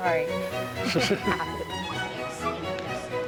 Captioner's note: cap wearer laughs; bright music continues